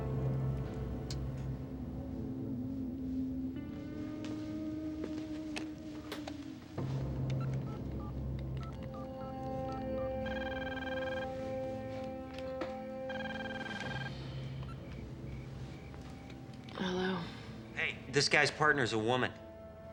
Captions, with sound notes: (phone keys beeping) (phone ringing) - Hello? - Hey, this guy's partner is a woman.